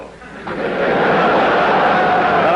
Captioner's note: laughter